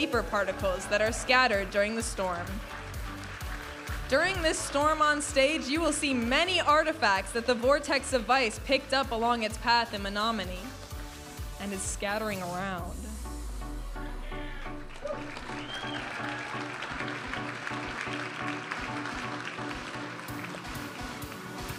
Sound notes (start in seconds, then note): 14.3 audience applauding and cheering; 17.9 upbeat music